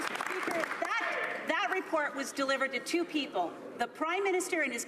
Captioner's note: some Applause